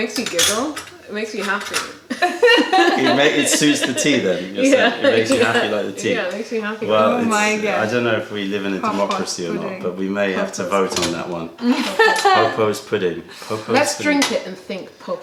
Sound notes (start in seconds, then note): 2.0 laughter; 7.2 laughter